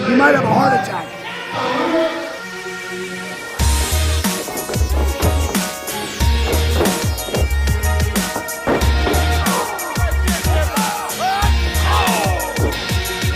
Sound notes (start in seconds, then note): 1.5 announcer on speaker; 2.3 ominous music playing; 3.8 electronic music playing; 11.6 grunting sound; 12.7 electronic music playing